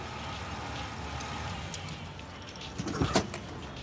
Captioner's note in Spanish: sigue sonando el claxon